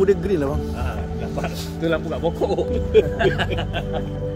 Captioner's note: laughs